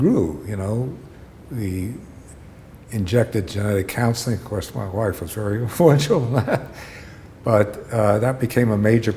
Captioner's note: chuckle